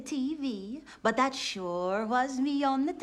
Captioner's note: swedish Accent